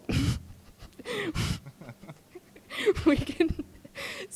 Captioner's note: laughing